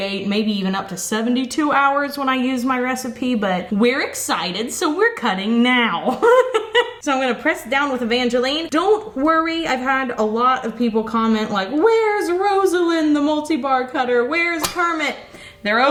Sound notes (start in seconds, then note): 6.1 laughs